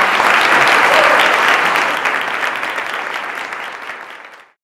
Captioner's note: audience applause